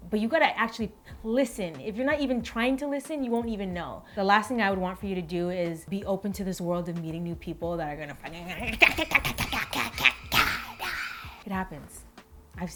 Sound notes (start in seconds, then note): 8.5 babbles